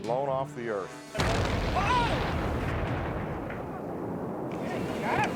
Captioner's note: site exploding